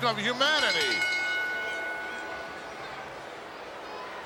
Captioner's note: bell rings